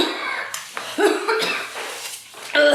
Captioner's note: coughs